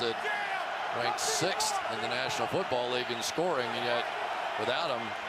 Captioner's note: cheering